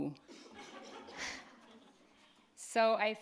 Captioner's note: audience laughs